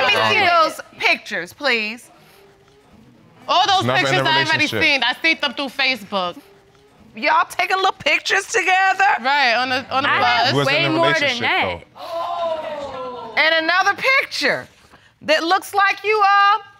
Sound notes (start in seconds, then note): 12.0 audience exclaims